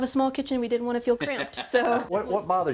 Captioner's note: laughs